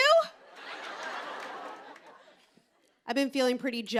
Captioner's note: laughter